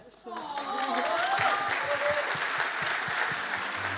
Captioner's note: applause